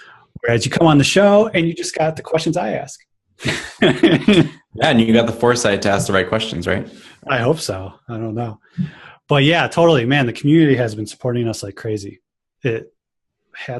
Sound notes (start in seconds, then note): 3.4 laughs